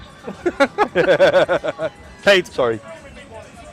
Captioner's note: laughing